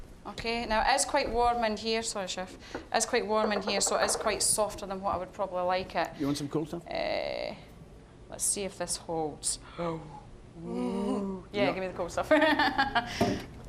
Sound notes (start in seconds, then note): 10.5 gasping; 13.1 laughing